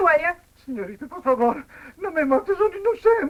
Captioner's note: speaking spanish